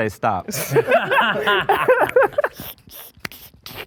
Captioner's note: men laugh